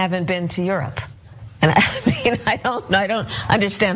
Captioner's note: laugh